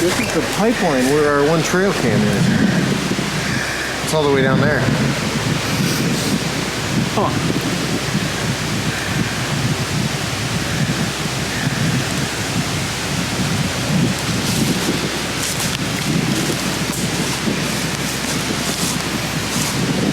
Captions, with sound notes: - This is the pipeline where our one trail cam is. It's all the way down there. Huh. (wind gusting continues) (leaves crunching)